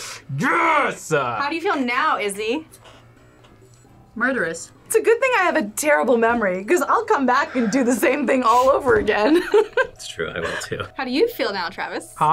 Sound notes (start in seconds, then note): 10.4 laughs